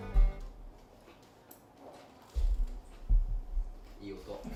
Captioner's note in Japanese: パリ ポリ： の咀嚼音